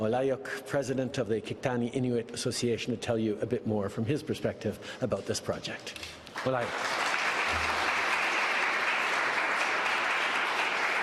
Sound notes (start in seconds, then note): 1.7 speaking French; 10.2 applause